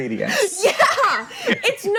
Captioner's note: laughing; laughs